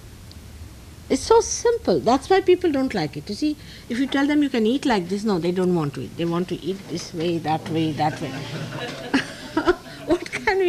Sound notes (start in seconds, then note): 7.6 laughs